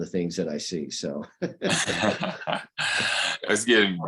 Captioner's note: laughter